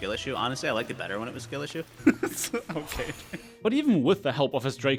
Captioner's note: laughs